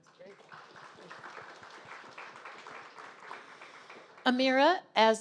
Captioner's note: audience applauding